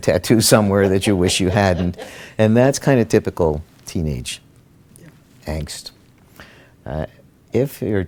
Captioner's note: laughter